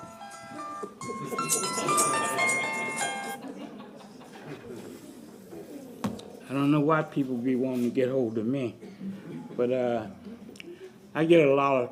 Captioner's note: cell phone ringing